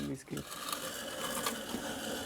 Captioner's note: scratching sounds